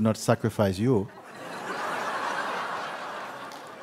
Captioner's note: laughter